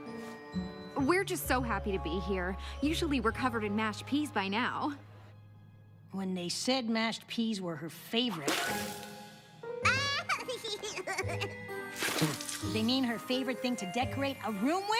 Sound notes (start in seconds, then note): 11.7 giggliling